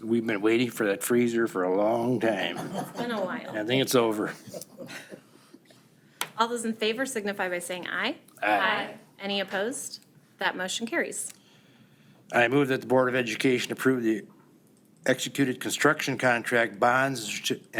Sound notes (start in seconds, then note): 2.2 people laughing